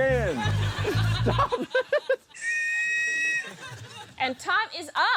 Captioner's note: laughs; blows whistle